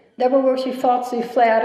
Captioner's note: none